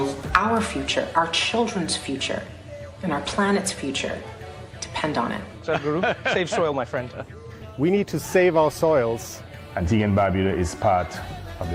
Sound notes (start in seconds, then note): 5.6 few laugh; 9.1 laughter